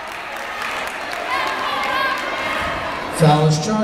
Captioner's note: yelling